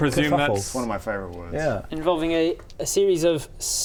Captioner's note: none